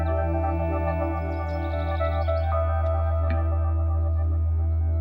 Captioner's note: bird chirping